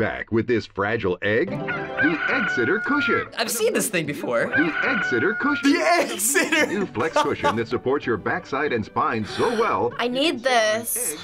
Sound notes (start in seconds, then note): 4.5 laughing; 7.7 voice-over; 9.2 gasping; 11.1 voice-over